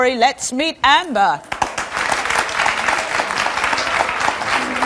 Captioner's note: audience applauds